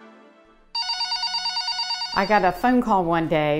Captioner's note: phone rings